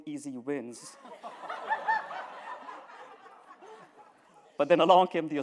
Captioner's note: laughter